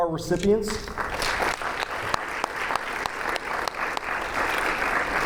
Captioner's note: audience applauding